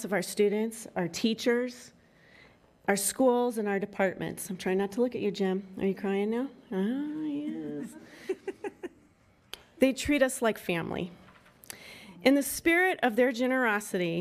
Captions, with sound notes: of our students, our teachers, our schools, and our departments. I'm trying not to look at you Jen, are you crying now? Ah yes. (women chuckling) They treat us like family. In the spirit of their generosity